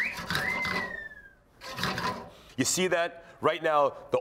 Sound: whistling

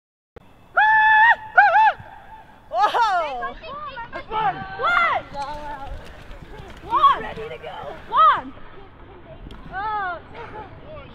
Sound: cheering, yelling, and laughing

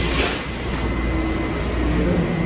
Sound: chime

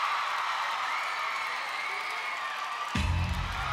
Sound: crowd screams

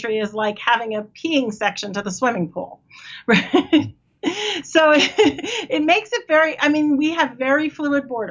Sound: laughs

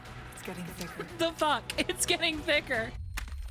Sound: lauging

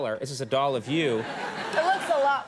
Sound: audience laughing

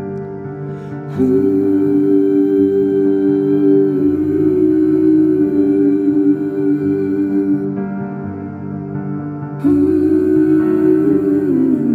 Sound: humming

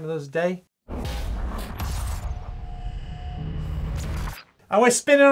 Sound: metal clashing and sparking

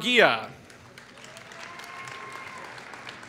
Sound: applause

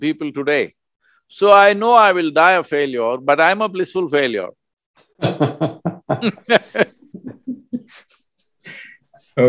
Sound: laughter

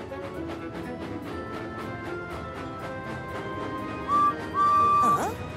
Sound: whistles

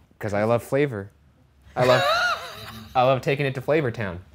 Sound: laughing

